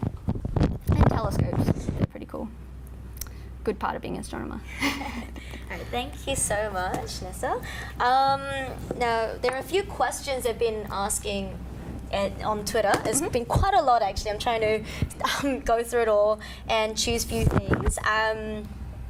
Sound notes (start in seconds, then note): 4.8 laughs